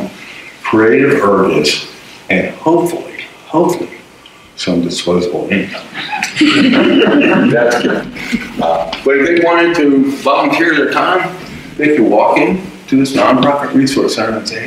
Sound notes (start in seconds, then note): 5.9 audience laughter